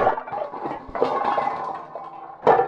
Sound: crash!; bang!; crash!

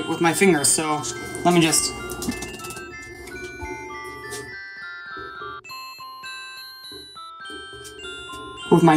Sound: fwip fwap

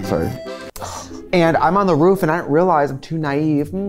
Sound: scoffs

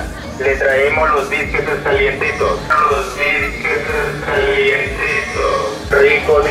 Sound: a seller of biscuits shouting on the back

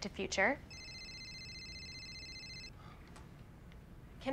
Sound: loud ringing

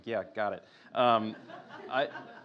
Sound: laughter

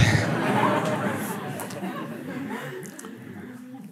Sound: laughter

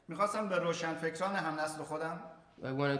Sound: speaking in farsi

